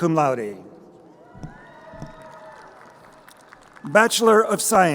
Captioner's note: crowd cheering